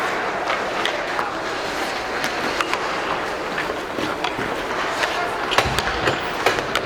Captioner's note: people chattering; hockey puck clanking